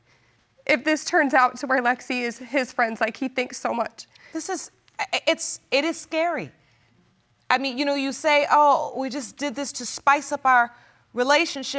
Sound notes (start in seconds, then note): none